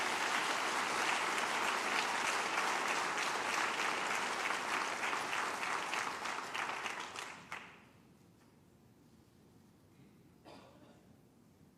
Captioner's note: applause